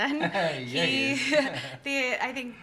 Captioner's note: laughs